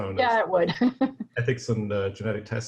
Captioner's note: laughs gently